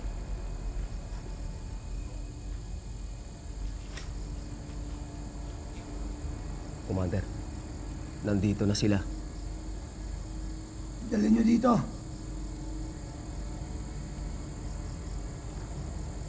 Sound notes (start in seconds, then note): 6.9 speaking foreign language